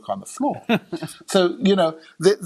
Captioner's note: laughing